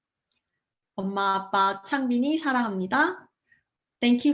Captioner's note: speaking in foreign language